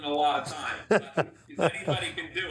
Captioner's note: Buddy chuckles